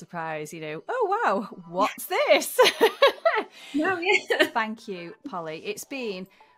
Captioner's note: laughter